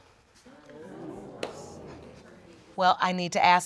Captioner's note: audience exclaims